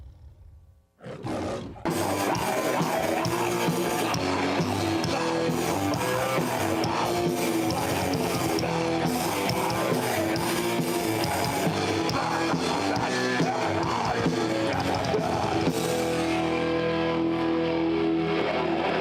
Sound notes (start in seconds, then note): 1.9 chaotic metal music; 1.9 singer screaming; 15.7 chaotic metal music